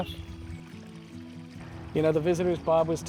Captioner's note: stream burbling